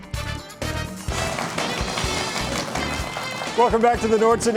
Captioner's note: audience clapping